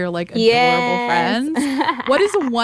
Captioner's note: laughter